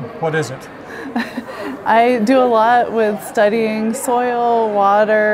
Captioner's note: chuckles